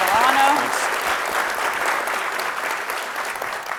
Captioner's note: clapping